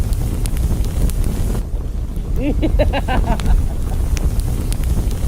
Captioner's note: Baker laughs diabolically